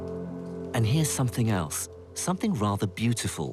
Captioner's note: voiceover